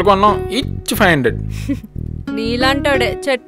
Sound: chuckles

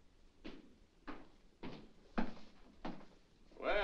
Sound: Charles' footsteps

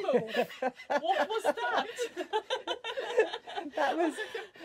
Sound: laughing

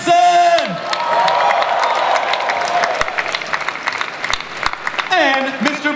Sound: audience cheering

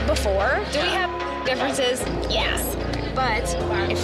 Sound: beep

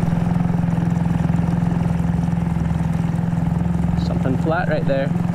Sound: boat motor hums

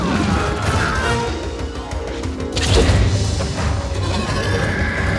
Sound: bird screeches; Te Ka roars

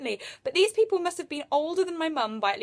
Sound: none

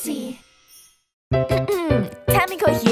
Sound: clearing throat

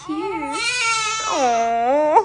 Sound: crying

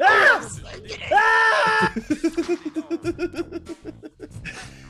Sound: laugh

